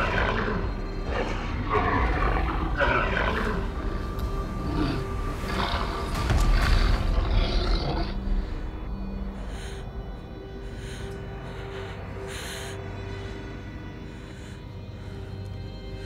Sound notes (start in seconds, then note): 10.1 heavy breathing